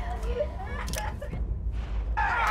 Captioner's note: crying